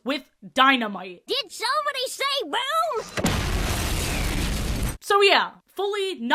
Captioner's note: giant explosion sfx